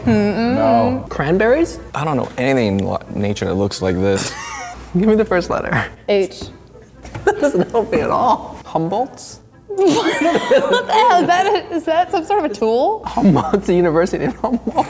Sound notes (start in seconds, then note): 4.2 chuckling; 9.8 laughing; 14.2 laughing